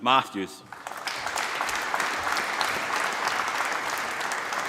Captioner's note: applause